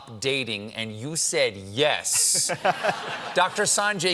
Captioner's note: laughter